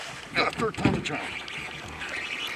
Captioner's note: rod whipping; fish splashing; reel spinning